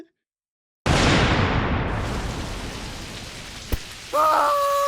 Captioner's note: thunder crash, raining